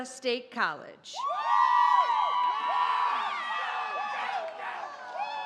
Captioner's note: audience cheers